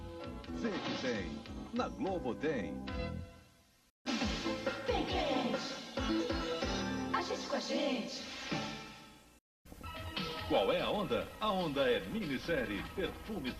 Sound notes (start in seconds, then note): 0.3 male announcer speaking Portuguese; 4.7 quartet chanting in Portuguese; 10.3 male announcer speaking Portuguese